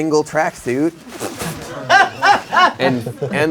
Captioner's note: laughing